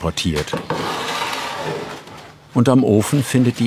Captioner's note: grinding sounds